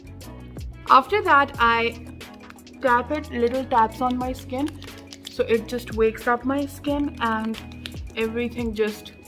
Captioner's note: little taps